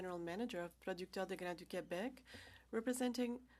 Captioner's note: speaking french